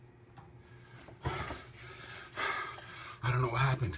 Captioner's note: breathing heavily